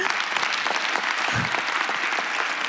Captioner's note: applause